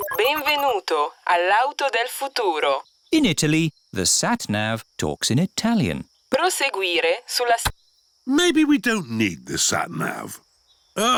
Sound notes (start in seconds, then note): 0.0 beeps; 2.4 speaks italian; 6.7 sat nav talks in italian